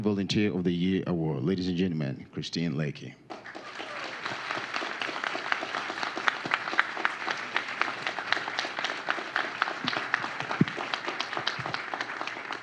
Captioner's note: applause